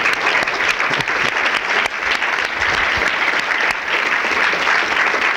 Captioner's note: audience applause